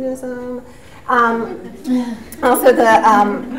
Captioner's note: audience laughs